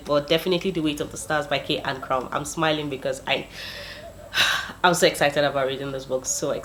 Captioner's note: sigh